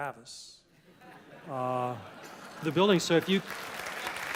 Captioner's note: laugh; applause